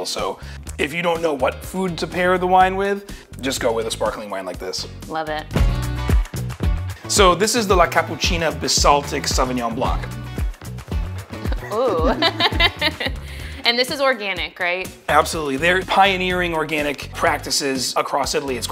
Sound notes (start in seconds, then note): 5.9 upbeat music; 10.2 upbeat music continues; 11.4 laughs